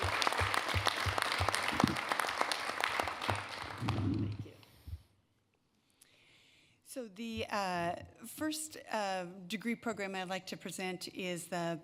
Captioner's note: applae